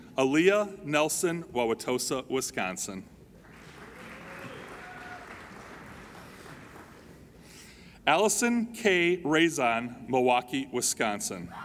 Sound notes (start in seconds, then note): 3.4 applauding